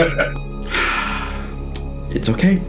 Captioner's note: evil chuckle; sigh